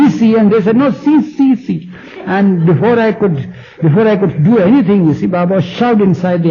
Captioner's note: general laughter